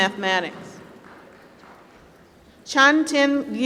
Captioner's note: applause